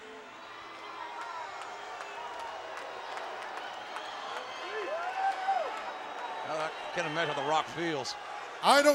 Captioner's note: applause